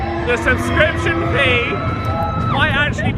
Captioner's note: shrieks